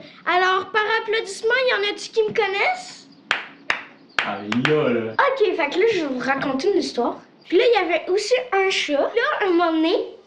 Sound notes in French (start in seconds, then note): 4.2 faibles applaudissements